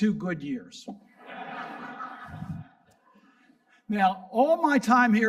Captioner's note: audience laughing